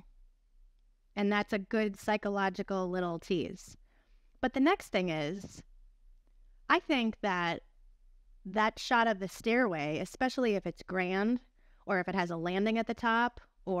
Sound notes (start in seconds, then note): none